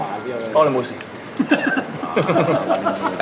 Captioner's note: OR KIA laughs